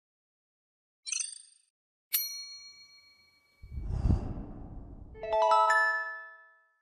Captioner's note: intro sound effects